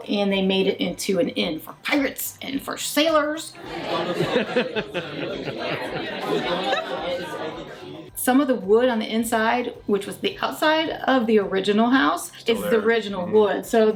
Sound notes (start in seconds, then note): 3.9 laughs